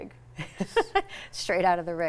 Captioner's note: laughing